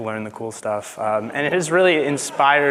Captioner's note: audience laughing